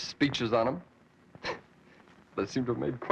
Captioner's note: chuckles